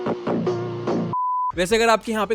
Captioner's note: beep